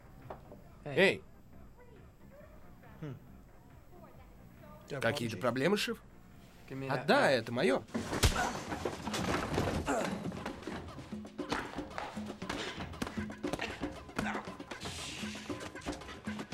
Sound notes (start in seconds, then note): 7.9 chair falls; 14.1 grunting